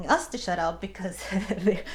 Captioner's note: laughs